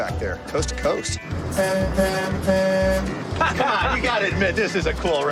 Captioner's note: horn honks